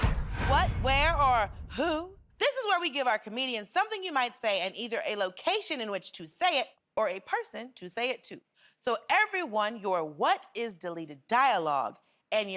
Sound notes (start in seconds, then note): none